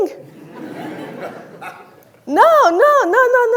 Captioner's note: audience laughing